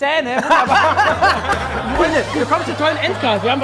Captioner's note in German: Lachen